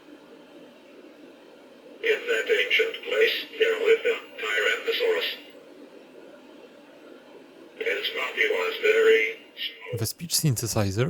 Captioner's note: the computer reads the story about the dinosaurs in a synthetic voice